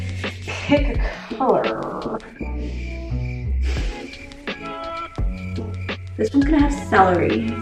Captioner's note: crickets